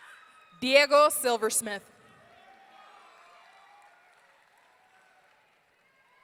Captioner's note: audience cheering